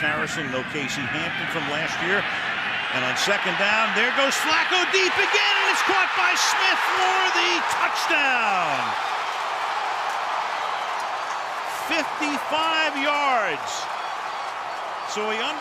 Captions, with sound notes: No James Harrison, no Casey Hampton from last year. And on second down, there goes Flacco deep again. And it's caught by Smith for the touchdown. [crowd cheering] 55 yards.